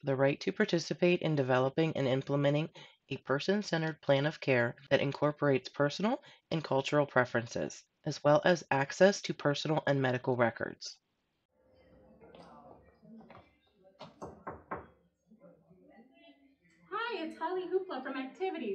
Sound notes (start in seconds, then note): 14.0 knocking